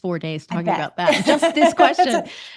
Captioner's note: laughter